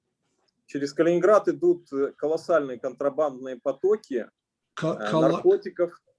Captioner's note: speaking Russian language